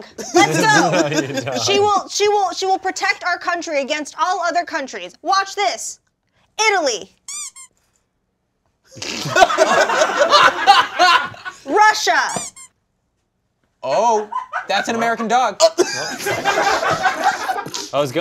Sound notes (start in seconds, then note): 7.2 toy squeaks; 9.0 all laughing; 12.2 toy squeaks; 15.8 crew laughing